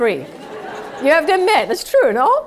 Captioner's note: laugh